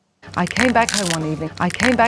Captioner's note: stem crunching